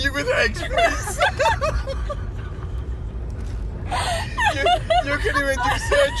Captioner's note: hysterical laughter